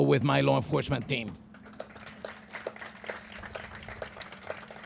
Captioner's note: crowd applauding